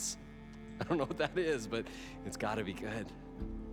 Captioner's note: laughing